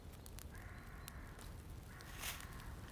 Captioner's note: none